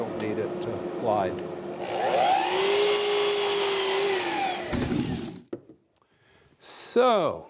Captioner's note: sawing